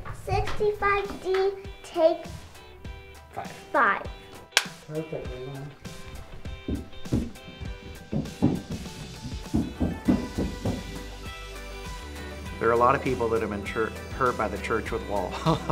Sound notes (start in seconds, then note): 8.4 boots stomping